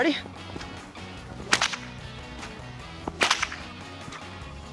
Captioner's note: whip cracking